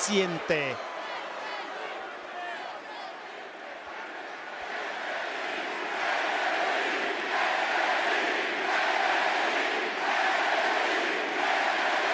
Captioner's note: applause